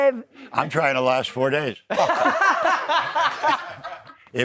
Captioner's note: laughs